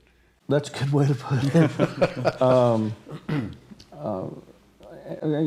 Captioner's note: laughter